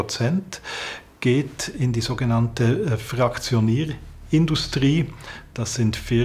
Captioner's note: none